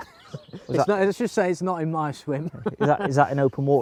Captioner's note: laughs